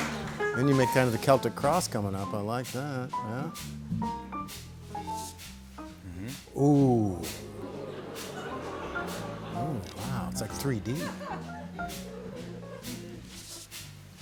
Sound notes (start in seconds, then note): 6.5 audience oohs